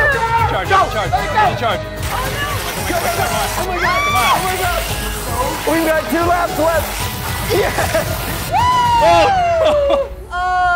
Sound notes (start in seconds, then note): 2.1 cheering, chattering